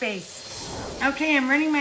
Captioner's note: air whooshes